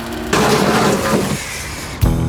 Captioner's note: grinding continues; scraping